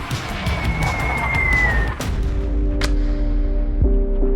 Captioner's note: plane falling